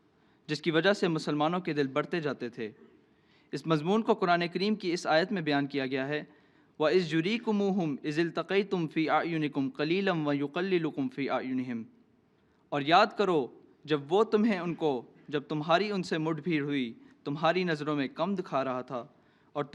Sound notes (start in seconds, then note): 11.3 Arabic